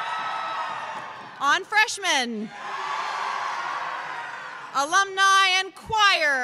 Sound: cheers

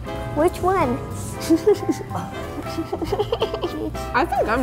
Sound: laughs

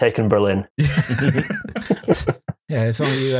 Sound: laughter

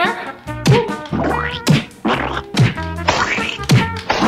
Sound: glue squishing

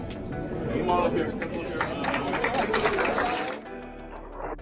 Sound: audience applauds

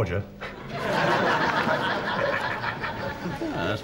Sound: laughter

